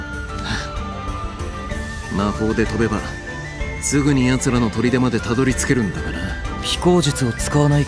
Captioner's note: sigh